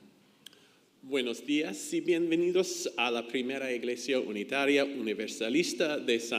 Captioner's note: speaks in foreign language